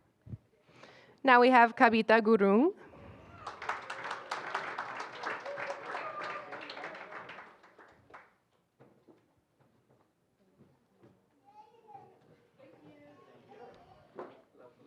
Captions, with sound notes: Now we have Kavita Gurung. [APPLAUSE] [INDISTINCT CHATTER]